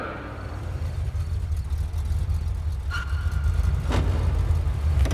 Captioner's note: crickets chirping